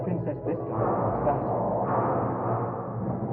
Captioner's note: clanking